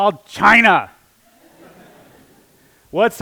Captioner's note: laughter